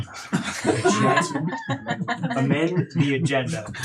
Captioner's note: laughing